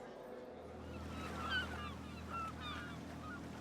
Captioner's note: seagulls squawking